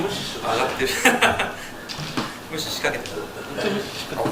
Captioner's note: laughs